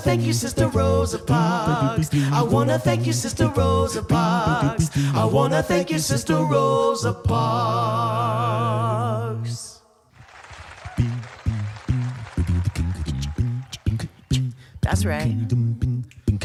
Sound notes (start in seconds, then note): 10.1 crowd cheering; 11.4 soft beatboxing